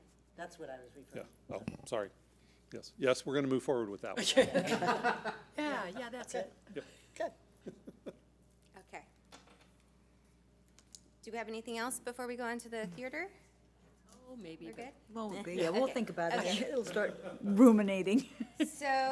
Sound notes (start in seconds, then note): 4.2 board laughs